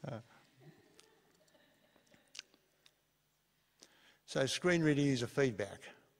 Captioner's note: laughs; laughter